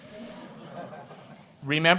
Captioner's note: audience laughing